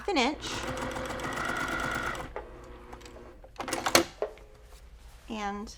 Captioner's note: sewing machine clunking